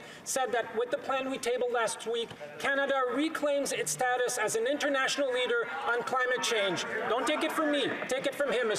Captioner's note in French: voix de l'interprète